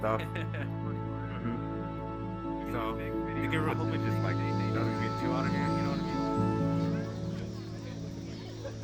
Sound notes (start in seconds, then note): 3.1 cicadas chirping